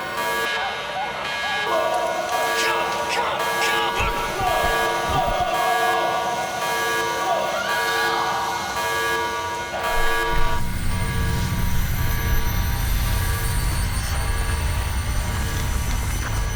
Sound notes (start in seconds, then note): 1.4 screaming; 10.0 rumbling